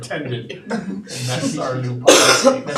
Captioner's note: audience laughing